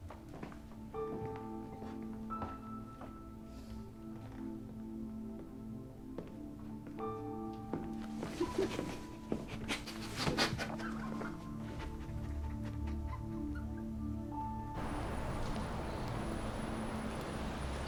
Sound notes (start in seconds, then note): 8.3 sobbing